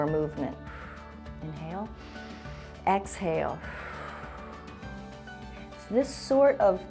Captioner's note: exhales; inhales